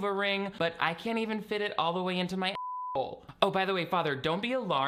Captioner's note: beep